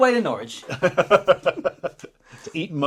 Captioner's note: laughing